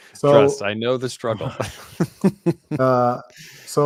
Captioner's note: chuckling